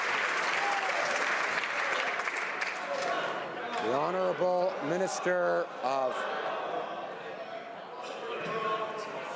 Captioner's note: some Applause